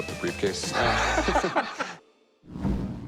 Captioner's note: laughs